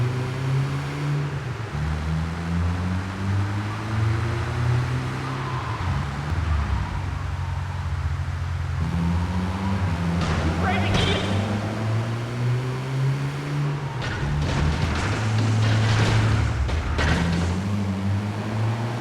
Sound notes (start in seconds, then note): 8.8 tires screeching; 14.4 gun firing